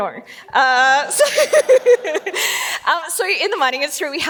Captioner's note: laughs